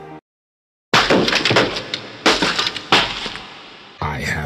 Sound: T.V breaking sound; outro music

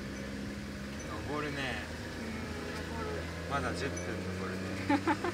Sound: laughs

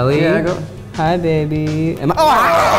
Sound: screams

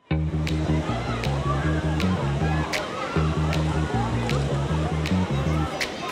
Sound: people chattering; bright music

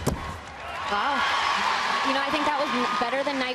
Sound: crowd cheering

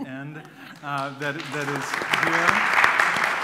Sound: applause

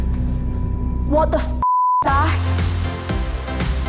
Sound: beep; upbeat music

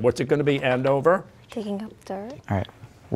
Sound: quietly

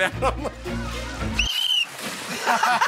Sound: whistle blows; laughter

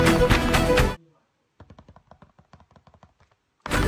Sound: more damned finger taps

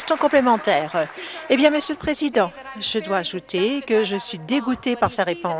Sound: applause

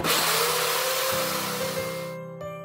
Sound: chainsaw whirring

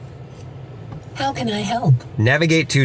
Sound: computerized Voice

